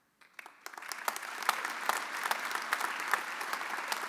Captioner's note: audience applauding